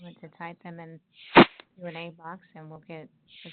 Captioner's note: sliding static